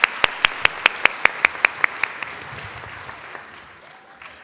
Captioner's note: applause